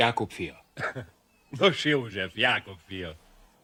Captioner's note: laughing